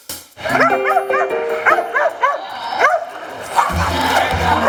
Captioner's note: dog barks